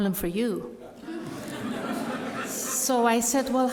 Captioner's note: crowd laughs